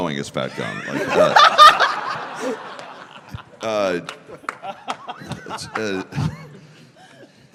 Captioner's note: laughter